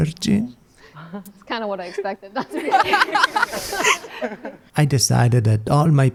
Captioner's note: laughs